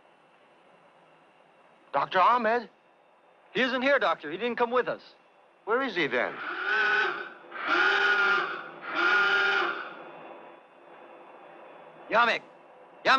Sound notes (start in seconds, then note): 6.3 alarm blaring